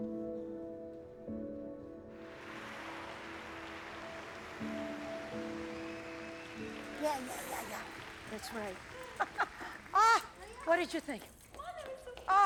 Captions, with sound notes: [THEATER CROWD APPLAUDING] [APPLAUSE CONTINUES] AH! WHAT DID YOU THINK?